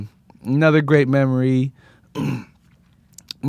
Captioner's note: clears throat